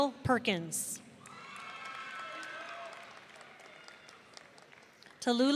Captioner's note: audience cheering